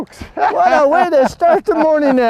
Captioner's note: laughter